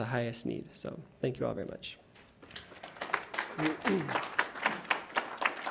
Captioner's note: audience applauds